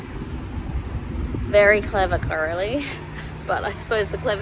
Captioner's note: scoffs